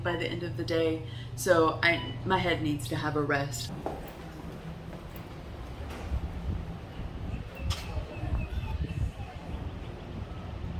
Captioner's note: birds chirping